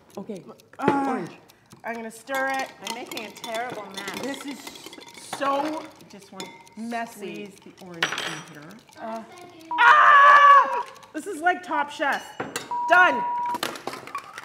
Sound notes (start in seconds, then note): 12.7 beep